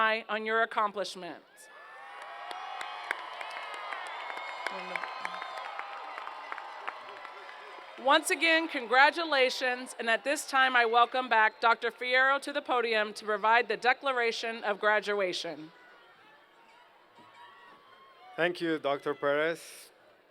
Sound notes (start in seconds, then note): 1.6 cheers and Applause